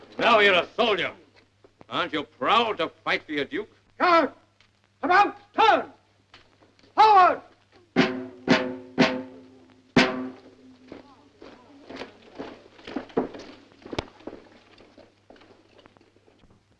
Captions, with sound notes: - Now you're soldier, aren't you proud of fighting your Duke. - Turn, about-turn, forward. (drum beating) (floor pattering)